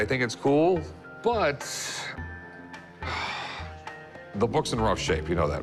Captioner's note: sighs